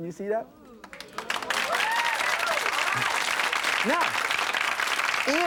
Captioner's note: audience cheers and claps